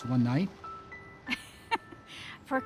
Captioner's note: laughs